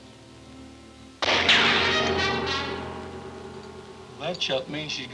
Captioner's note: gun firing